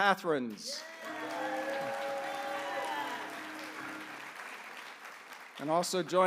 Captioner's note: applause